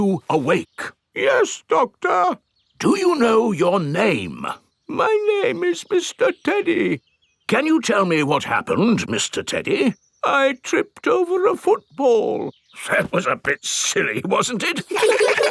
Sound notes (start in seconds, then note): 1.5 in teddy's voice; 3.3 in normal voice; 5.4 in teddy's voice; 7.8 in normal voice; 10.6 in teddy's voice; 13.4 in normal voice